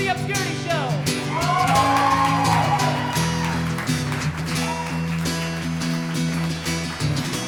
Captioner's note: guitar strumming; audience cheering